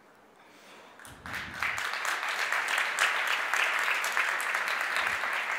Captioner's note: audience applauds